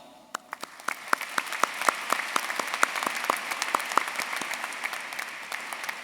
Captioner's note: everyone cheering and applauding